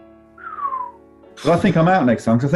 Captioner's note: whistles